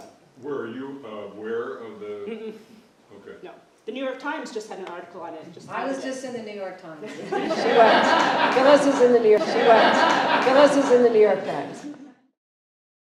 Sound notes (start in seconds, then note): 7.0 laughter